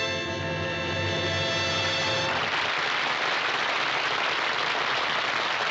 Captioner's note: instrumental music; applause